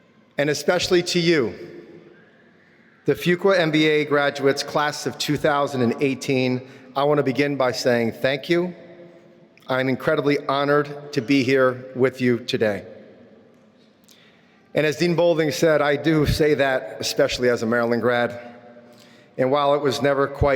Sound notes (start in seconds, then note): none